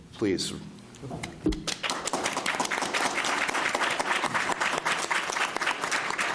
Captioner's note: applause